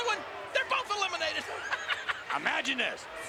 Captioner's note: chuckling